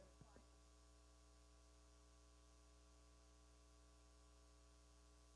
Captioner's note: person speaking away from mic